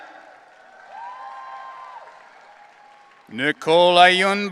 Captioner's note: audience cheering